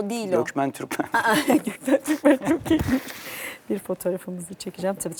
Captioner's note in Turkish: kahkaha